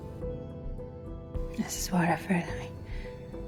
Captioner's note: voiceover